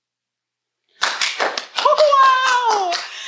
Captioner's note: clapping